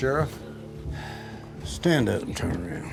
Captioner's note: sighs